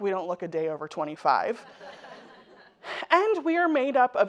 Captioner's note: audience laughing